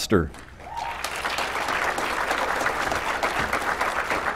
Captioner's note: applause